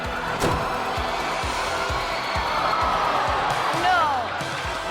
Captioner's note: stick banging; school cheering